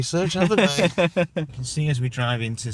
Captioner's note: laughing